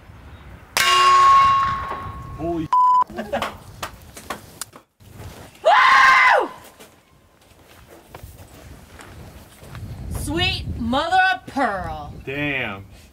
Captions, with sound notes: (metal clang) - Holy shit! (laughter) (lady yelling) - Sweet mother of pearl! - Damn.